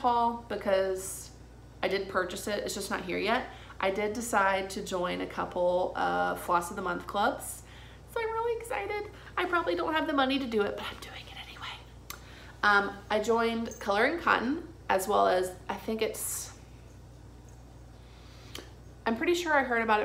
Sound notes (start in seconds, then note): 10.9 whispers